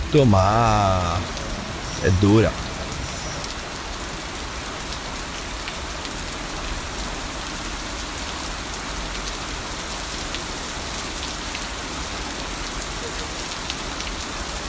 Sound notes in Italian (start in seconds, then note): 3.2 pioggia e tuoni